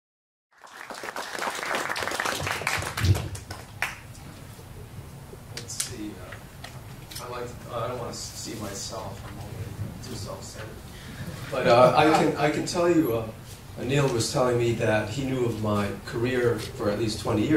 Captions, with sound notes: [applause] Let's see. I'd like... I want to see myself. I'm too self-centered. [laughter] But I can tell you, Neil was telling me that he knew of my career for at least 20 years.